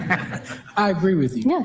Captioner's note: audience laughing